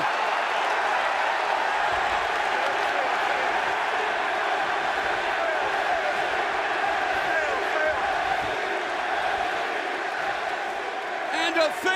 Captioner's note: crowd cheering